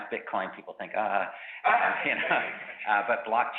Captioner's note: groans